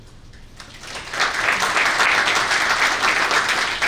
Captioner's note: audience clapping